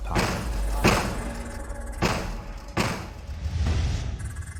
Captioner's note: gun booming